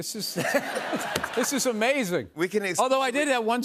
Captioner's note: laughter